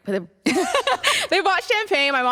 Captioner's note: laughter